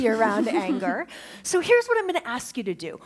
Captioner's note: laughter